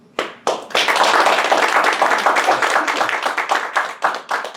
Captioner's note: class applauds